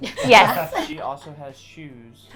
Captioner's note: all laugh